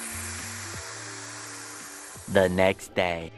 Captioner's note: sound of air pressure building